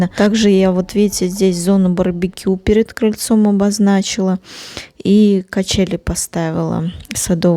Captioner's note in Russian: фыркает